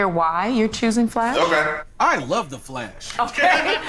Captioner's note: laughs